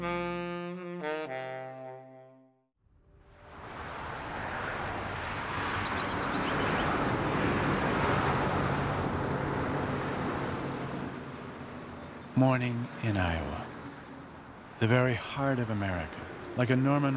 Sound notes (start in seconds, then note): 0.0 easy jazz music version; 4.0 car noise